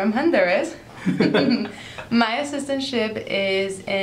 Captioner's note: chuckling